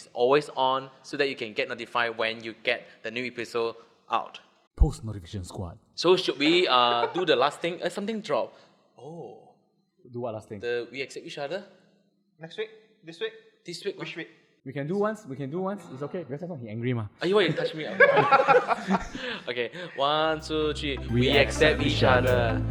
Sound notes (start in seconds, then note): 17.3 laughs